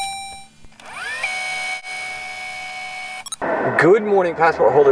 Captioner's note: beep; rewinding noise